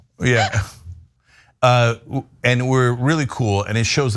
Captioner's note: laugh